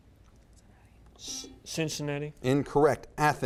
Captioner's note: buzzer beeps